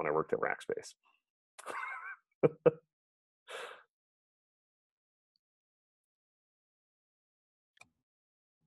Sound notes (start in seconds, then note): 3.8 chuckles